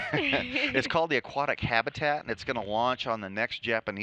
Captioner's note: laughing